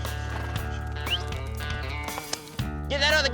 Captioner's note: whistles